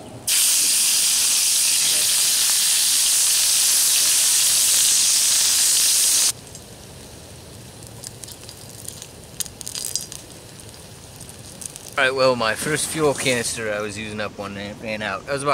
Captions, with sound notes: [ sizzling ] [ oil cracks and pops ] Alright well my first fuel canister ran out.